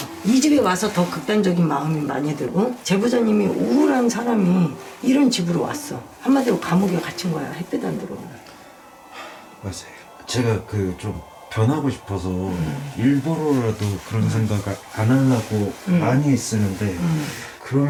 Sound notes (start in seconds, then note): 8.8 sigh